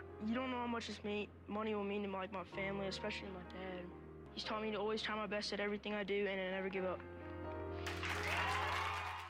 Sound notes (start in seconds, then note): 7.8 applause